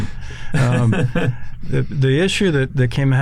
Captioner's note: laughing